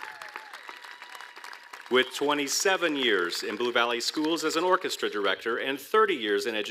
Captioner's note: applause